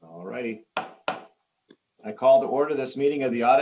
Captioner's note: gavel bangs